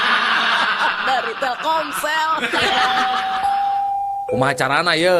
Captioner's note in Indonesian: tertawa